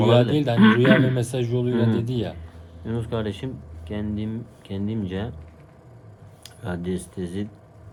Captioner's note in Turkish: kahkaha